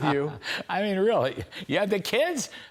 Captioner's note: laughter